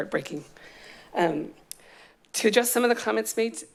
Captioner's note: smacks lips